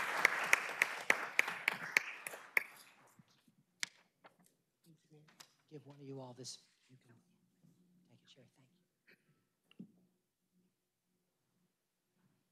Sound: applause

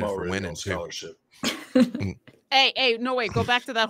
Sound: laughing

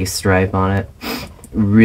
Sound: sniff

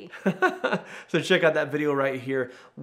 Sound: laughing

